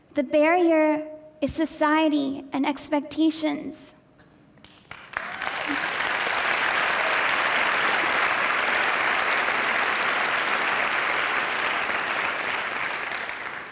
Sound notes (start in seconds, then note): 4.8 audience applause